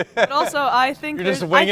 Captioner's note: laughing